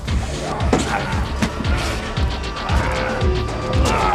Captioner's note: men grunting